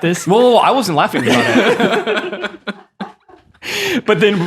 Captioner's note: all laughing